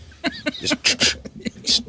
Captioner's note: laughing